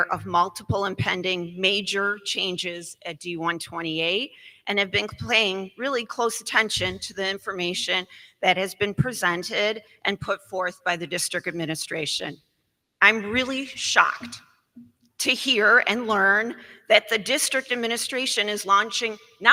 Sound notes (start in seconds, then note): none